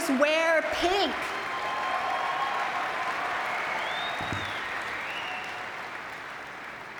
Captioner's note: audience cheering and clapping